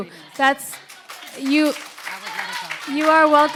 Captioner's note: audience applauds